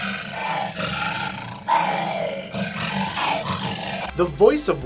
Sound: lion roars

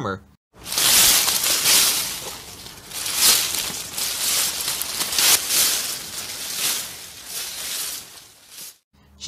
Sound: raking dry leaves

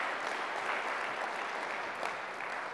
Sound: applause

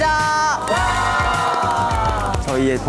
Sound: applause

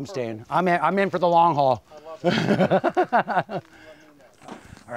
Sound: laughs

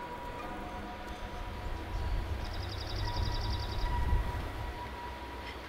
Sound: bird calls

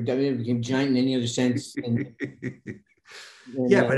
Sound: Denis laughing

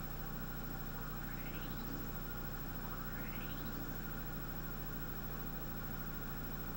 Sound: machine hums steadily, faint audio comes from TV

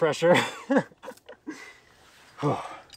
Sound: laughs

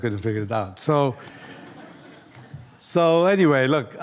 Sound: audience laughs

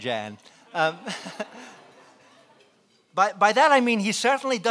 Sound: laughing

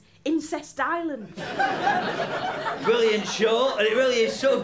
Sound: laughter

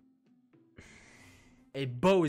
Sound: sighs

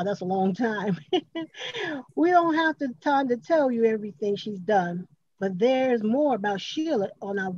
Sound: laughs

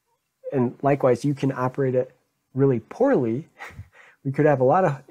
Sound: chuckles

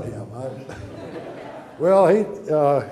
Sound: audience laughter

